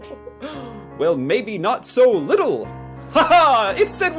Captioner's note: laughs; laughs